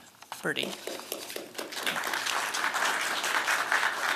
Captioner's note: applause